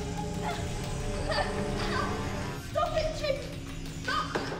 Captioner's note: sobbing